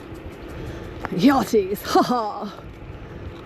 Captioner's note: in a joking pompous tone